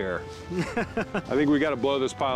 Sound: laughs

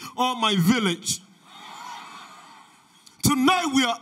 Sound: audience laughter

